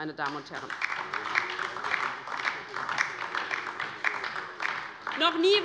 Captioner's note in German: Beifall DIE LINKE und vereinzelt SPD